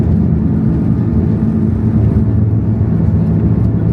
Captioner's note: jets hum